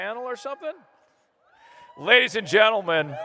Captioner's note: applause